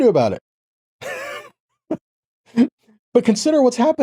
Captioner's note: laughing